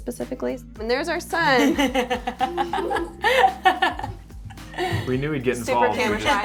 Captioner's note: laughing